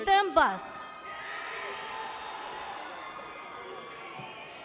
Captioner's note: audience cheers